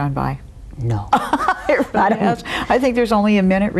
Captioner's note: laughs